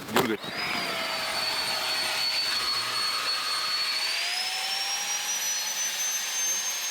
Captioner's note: air bag whistling